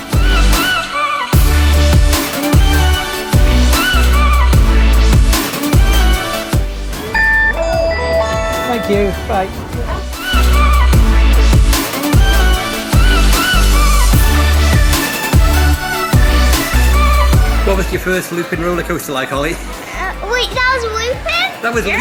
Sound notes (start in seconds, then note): 0.3 energetic upbeat music; 7.1 machine chimes; 10.1 energetic upbeat music